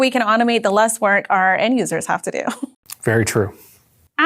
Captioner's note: laughing